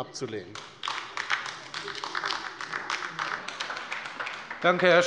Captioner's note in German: Beifall bei der LINKEN